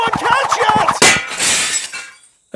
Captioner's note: shatters